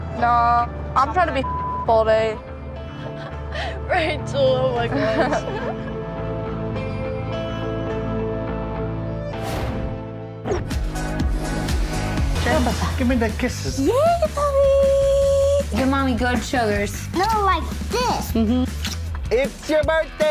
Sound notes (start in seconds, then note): 4.9 laughs; 7.0 somber music; 10.6 upbeat music